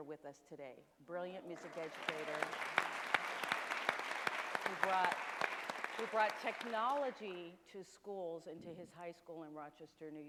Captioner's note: applause